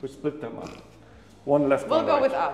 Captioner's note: snorts